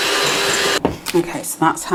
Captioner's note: cake mixer whirring